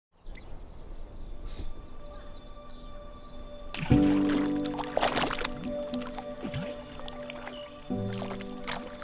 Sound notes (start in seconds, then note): 0.0 birds chirp; 3.3 gentle music